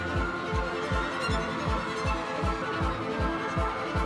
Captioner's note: people screaming